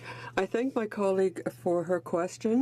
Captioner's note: speaking French